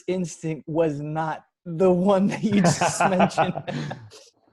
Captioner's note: laughing